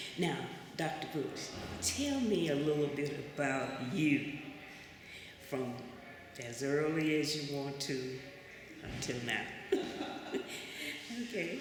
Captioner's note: laughter